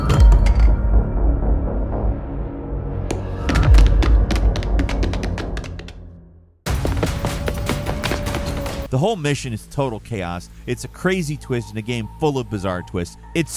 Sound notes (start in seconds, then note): 0.0 dramatic music; 3.4 footsteps patter